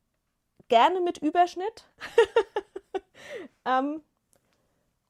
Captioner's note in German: gelächter